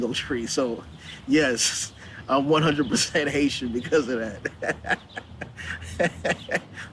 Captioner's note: laughing